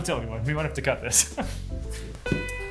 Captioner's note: chuckles; shoes thudding